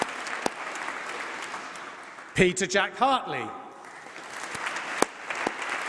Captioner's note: applause